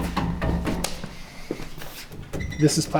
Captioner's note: object banging